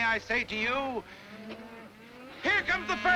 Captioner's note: cattle lowing